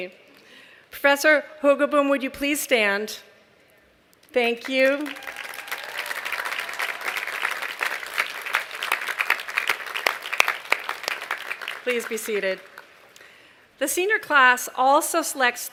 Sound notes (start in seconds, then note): 4.6 applause